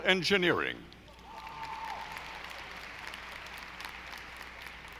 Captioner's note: audience applauding